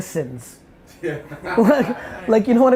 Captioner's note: laughing